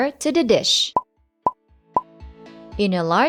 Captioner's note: bubble pop